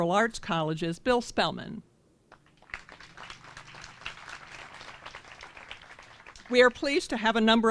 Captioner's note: applause